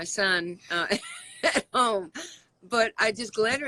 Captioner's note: laughs